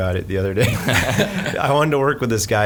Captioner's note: laughing